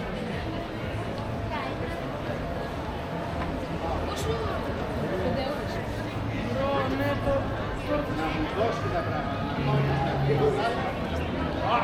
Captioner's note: people chattering